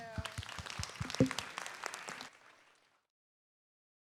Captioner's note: audience and performers applaud